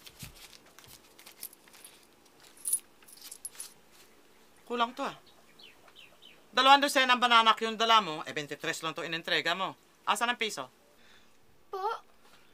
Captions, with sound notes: [coins clinking] Is this all of it? You brought two dozen banana cues, and you only gave me 23 pesos. Where's the one peso? Pardon?